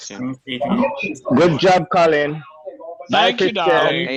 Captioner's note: background chattering